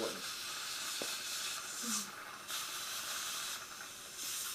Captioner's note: suction tube hums